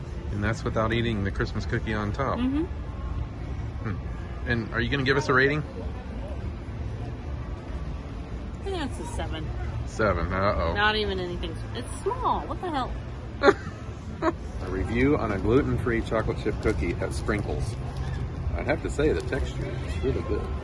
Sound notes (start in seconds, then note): 13.4 laughs; 19.9 giggles